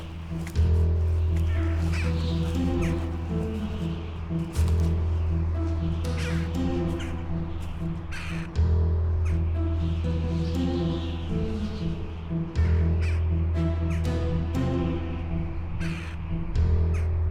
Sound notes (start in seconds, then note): 2.3 birds chirping; 2.3 dramatic music